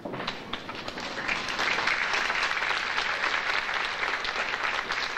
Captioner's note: audience applauding